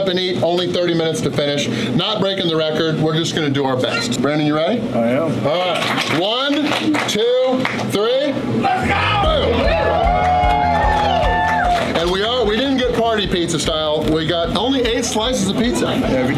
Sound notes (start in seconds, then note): 8.6 crowd cheering